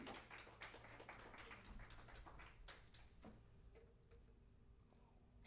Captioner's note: applause